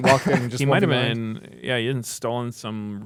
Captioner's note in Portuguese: risos